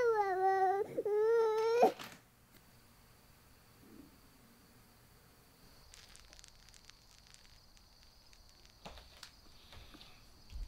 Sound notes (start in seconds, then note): 1.7 crying suddenly stops